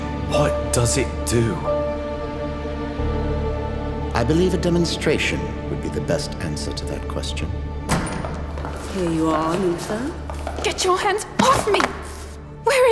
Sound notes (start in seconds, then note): 7.9 door opens